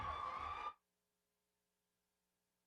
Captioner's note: silence